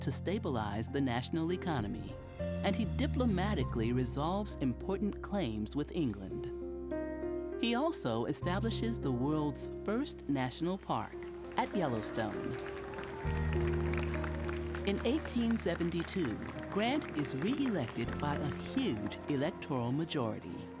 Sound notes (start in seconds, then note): 12.7 crowd cheering